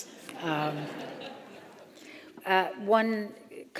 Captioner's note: audience laughing